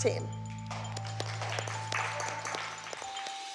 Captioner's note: applause